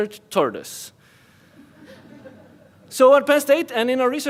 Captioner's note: audience laughs